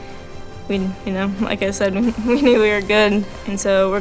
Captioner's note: laughs